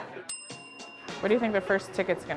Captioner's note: bell rings